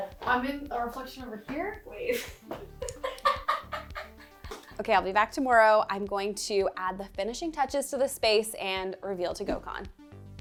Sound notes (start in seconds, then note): 2.6 laughs; 10.2 lighthearted music continues